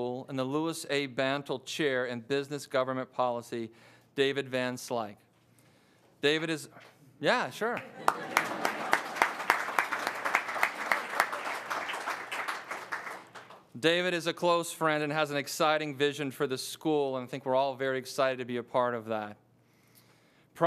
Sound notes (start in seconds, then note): 7.7 audience applauds; 7.8 audience laughs